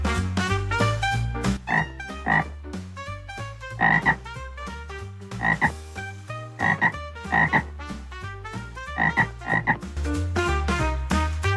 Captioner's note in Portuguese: Sons de sapo